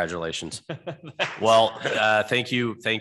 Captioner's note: laughs